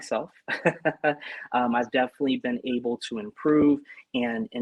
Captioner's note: laughter